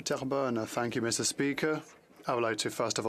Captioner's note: speaking French